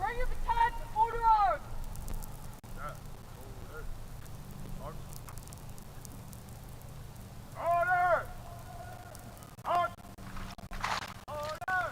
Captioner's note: shouted commands